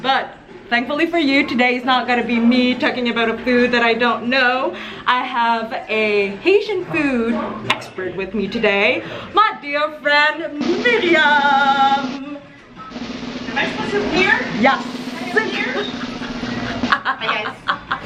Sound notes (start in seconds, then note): 11.3 drumroll; 15.4 laughing